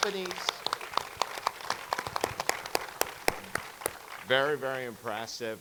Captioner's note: audience clapping continues